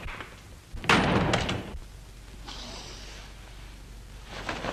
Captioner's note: door closes